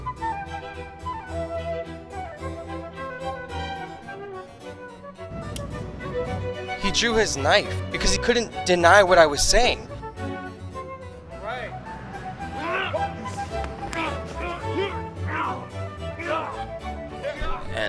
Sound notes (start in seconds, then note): 0.1 dramatic music; 5.6 knife clicks; 12.4 men groaning